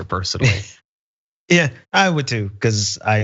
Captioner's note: laugh